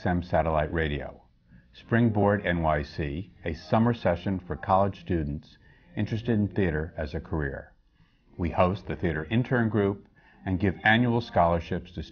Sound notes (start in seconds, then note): none